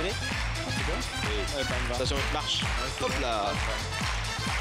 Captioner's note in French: Applaudissements